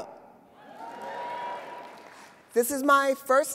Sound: audience cheers

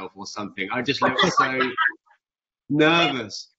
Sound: Jodie laughs

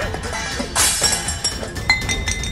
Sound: vessels clanking

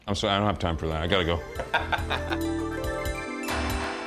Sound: Ming laughs

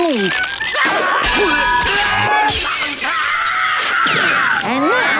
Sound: screaming

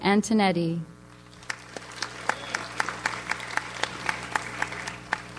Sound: audience applauds

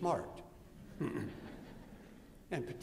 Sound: laughter

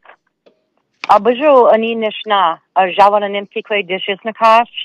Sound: speaking in Anishinaabemowin

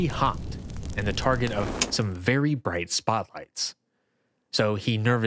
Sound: infernal fire crackle; breaker switch sharply flips

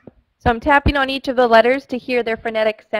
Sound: voiceover

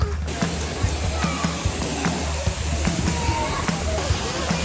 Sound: water rushing; upbeat music starts

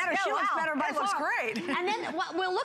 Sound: laughter

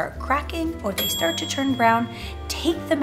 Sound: oven timer beeping

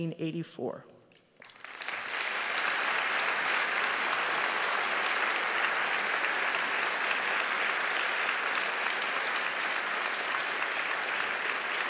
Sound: applause

